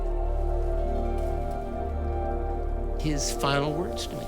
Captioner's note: leave rustling